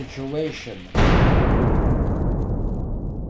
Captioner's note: loud explosion